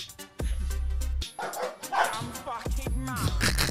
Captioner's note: dogs barking; snickering